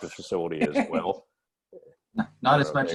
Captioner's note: laughter